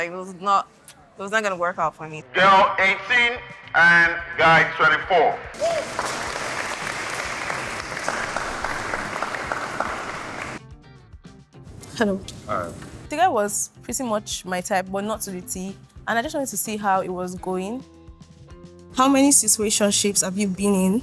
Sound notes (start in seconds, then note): 5.5 applause